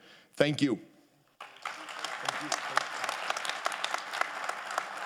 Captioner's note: audience applauding